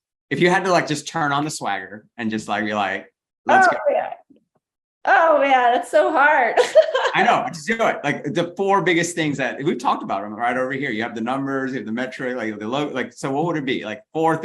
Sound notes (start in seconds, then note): 6.5 laughs